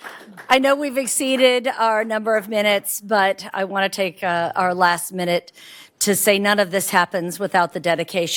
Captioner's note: applause